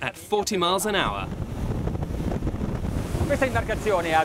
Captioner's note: wind